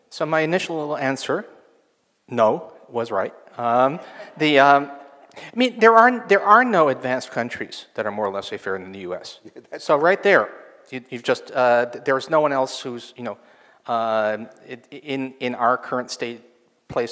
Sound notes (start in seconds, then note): 3.8 audience laughs; 9.8 laughs